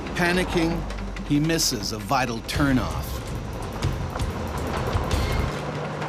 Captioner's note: voiceover